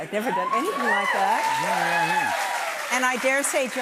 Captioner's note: cheers and applause